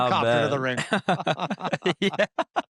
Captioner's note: laughs